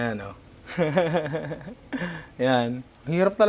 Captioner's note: laughs